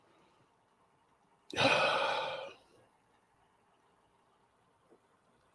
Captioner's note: sighs and takes a deep breath